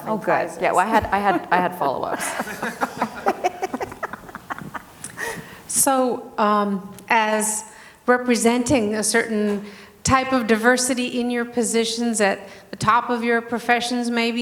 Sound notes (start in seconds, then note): 2.6 people laughing